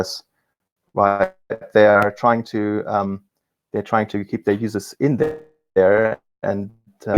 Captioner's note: murmurs